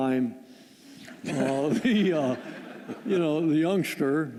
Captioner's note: laughter